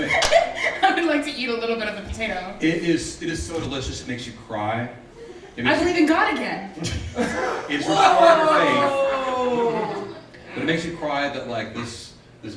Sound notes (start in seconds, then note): 6.8 laughing